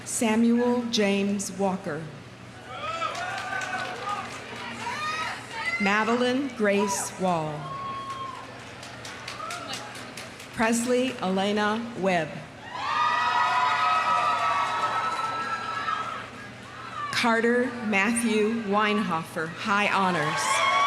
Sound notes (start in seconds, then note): 2.6 audience cheering; 2.7 audience applauding; 7.8 audience applauding; 12.6 audience cheering; 12.9 audience applauding; 20.0 audience cheering; 20.6 audience applauding